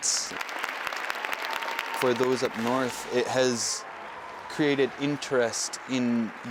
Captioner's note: applause